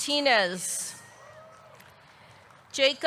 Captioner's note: audience cheering